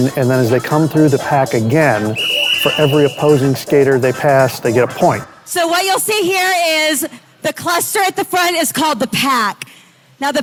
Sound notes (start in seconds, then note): 2.0 whistle whistling